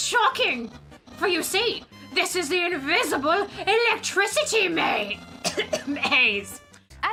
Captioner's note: coughs